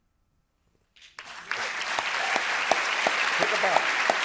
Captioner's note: audience applauding